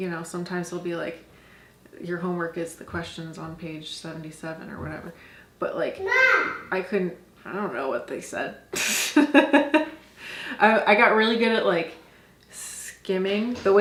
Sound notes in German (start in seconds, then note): 9.9 lacht